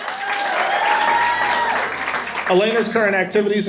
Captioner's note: audience applauding and cheering